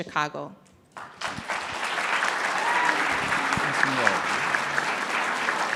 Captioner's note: audience clapping